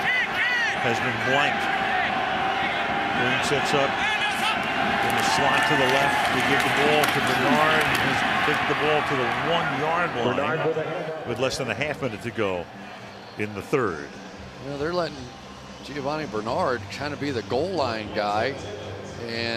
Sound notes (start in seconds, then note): 10.9 pa announcement